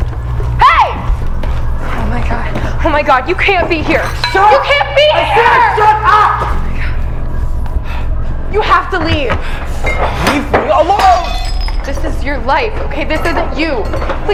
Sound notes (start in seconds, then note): 10.9 more glass breaking